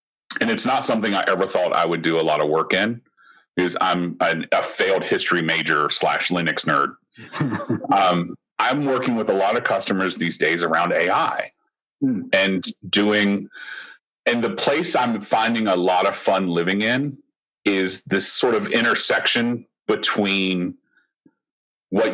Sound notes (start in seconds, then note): 7.2 laughter